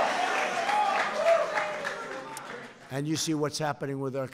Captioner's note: applause